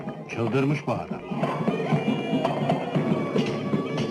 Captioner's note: people cheering